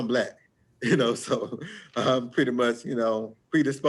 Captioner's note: chuckles